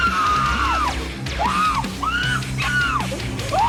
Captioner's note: prisoner screams; dramatic metal music